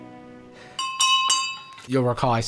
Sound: silverware clanging on crystal glass

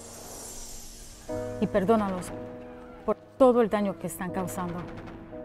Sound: speaking in foreign language

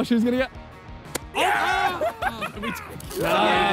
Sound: player cheers

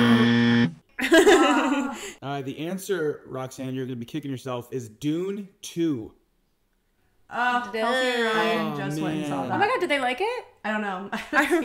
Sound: buzzer

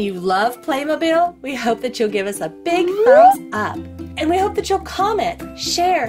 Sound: whistle sliding up

